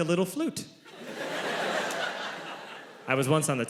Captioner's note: audience laughs